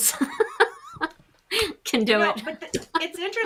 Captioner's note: chuckles